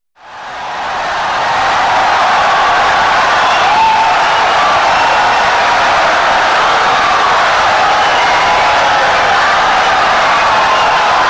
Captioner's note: wild applause and cheering for 17 seconds